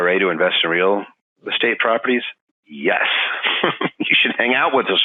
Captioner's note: laughing